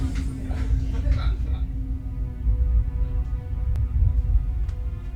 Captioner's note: family laughing in background; soft dramatic music